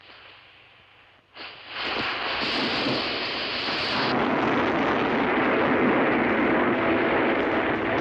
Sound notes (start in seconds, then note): 3.4 dynamite explodes